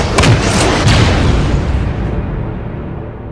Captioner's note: explosion; cocks blaster rifle